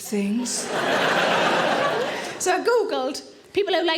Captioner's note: audience laughing